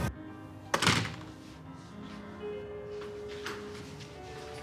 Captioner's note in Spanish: Sonido al abrir la puerta